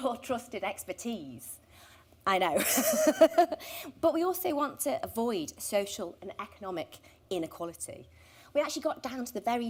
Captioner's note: laughter